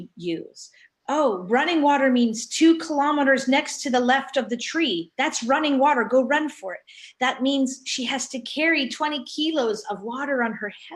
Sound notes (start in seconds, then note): none